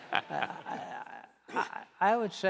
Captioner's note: laughing